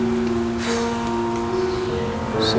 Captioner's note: Owen Sighs